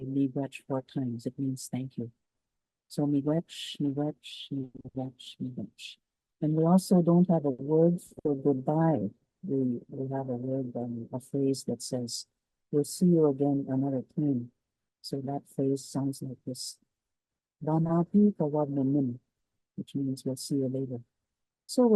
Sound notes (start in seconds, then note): 16.9 speaks in Cree